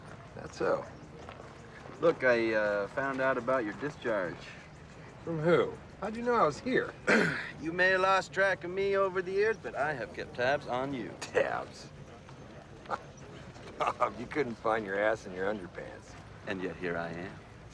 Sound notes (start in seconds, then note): 7.0 coughs; 12.8 chuckles